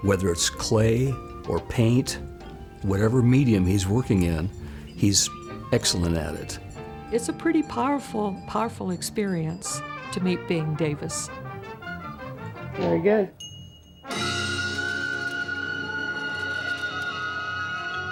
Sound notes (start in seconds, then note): 11.6 dramatic music; 13.4 bell chimes